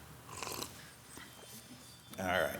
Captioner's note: slurping